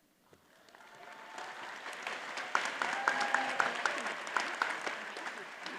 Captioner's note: audience cheers and applauds